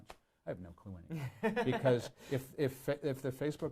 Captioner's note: laughs